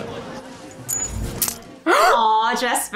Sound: coin clinks

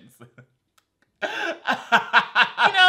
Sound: laughs

